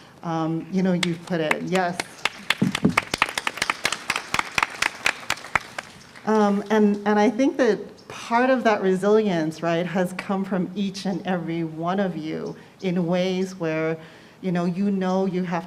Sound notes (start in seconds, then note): 4.0 applause